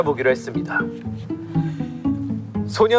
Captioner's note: hahaha